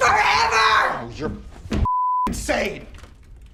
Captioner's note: beep